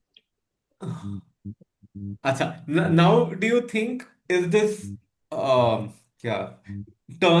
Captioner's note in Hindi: गला साफ़ करने की आवाज़